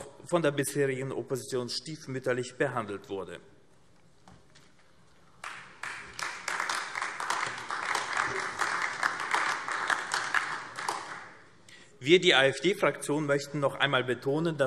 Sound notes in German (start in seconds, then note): 5.3 Beifall AfD